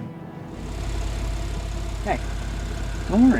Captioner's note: car engine running